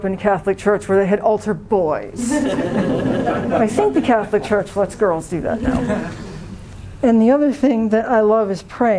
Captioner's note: laughter